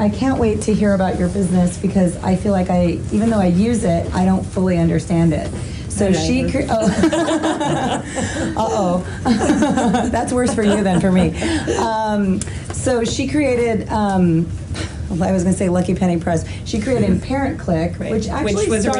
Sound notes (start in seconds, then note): 6.8 laughter